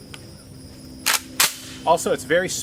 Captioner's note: cocks gun